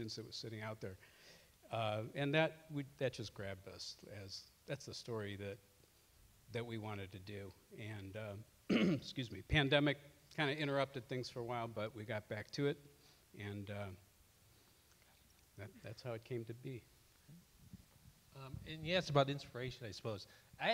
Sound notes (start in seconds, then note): 8.7 clears throat